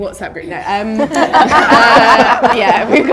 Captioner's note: audience laughter